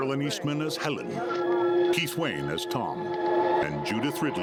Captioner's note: officer on radio; haunting music